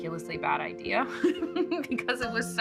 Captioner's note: laughing